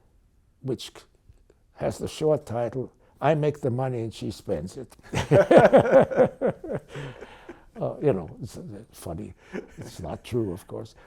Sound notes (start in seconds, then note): 5.1 laughing